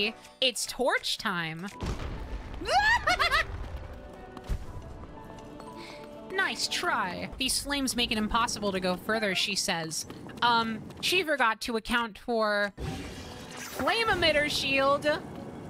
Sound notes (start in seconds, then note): 2.6 fearful Yelp